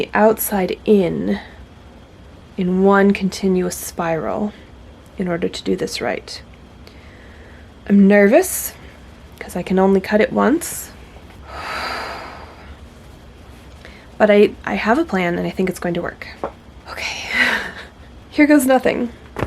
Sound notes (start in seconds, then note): 11.4 heavy exhale